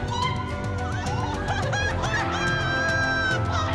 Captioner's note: laughter